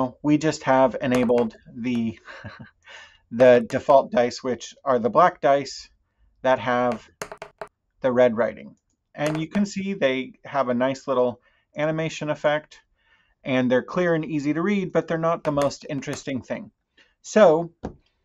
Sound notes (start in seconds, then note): 2.2 chuckles; 9.2 dice click while rolling